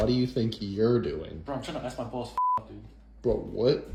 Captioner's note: beep